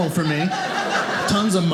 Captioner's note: audience laughing